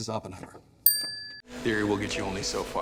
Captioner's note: check mark dings